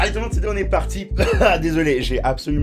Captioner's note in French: tousse